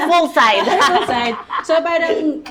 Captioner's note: laughs